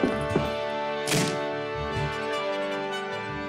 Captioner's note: doors crash